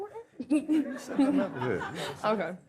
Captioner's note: audience laughs